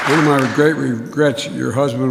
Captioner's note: applause